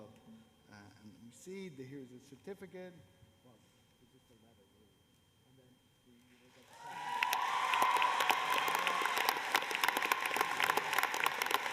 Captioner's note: cheers and applause